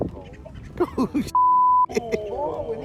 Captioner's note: man laughs; crowd chattering